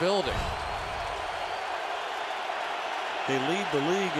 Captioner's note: cheering